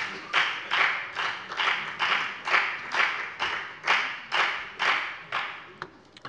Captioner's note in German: Beifall bei der FDP